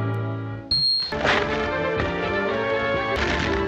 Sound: ice cracking

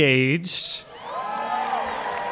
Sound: cheering and Applause

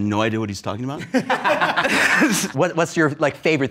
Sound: laughs

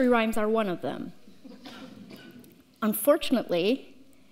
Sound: audience laughs

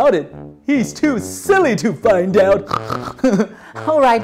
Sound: pig snorts

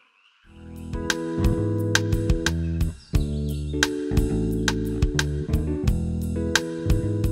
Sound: birds chirping; light upbeat music

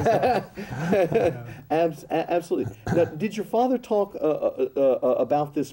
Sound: laughs

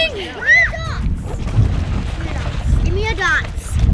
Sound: shrieks

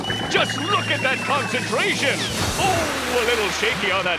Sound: none

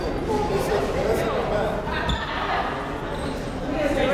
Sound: crowd conversing

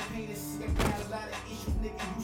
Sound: book slamming

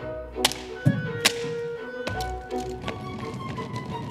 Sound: stickers tap

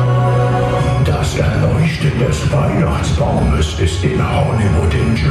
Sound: german

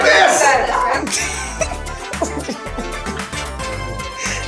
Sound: Gal laughs

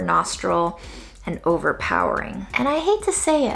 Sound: sniffs

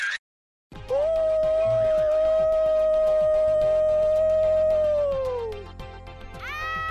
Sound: screaming

